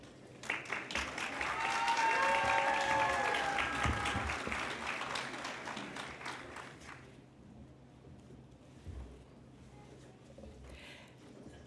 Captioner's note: cheering and Applause